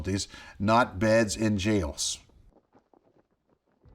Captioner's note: flag flapping